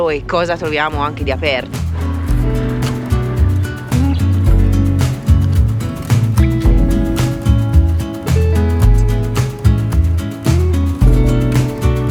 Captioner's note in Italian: Applauso